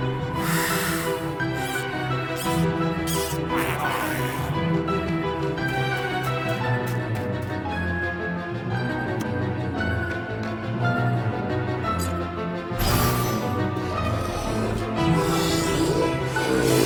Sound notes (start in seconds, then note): 0.2 tense music playing; 4.5 snarling